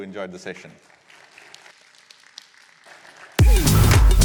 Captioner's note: applause